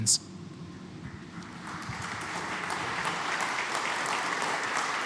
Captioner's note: applause